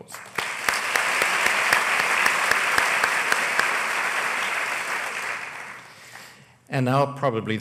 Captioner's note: applause